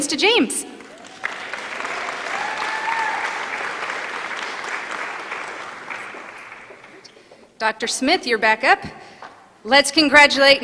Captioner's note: applause